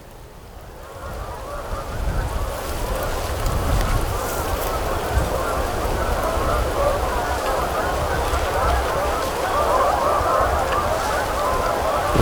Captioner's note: geese honking